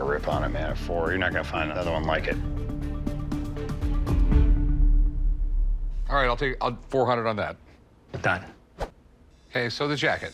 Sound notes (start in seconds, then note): none